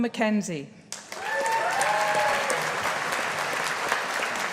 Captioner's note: audience applauding